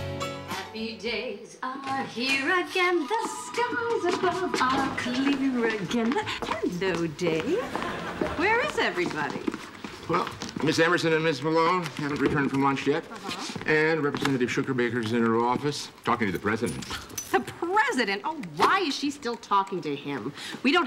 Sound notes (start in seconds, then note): 17.3 scoffing